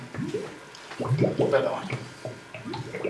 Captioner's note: bubbles